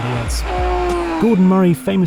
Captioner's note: engine roaring